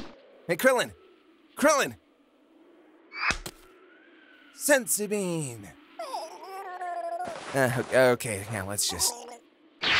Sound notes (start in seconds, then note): 5.9 Krillin whimper-gurgles pathetically